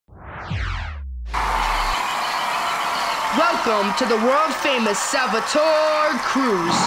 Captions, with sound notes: [crowd cheering] Welcome to the world famous Salva-Tour Cruise.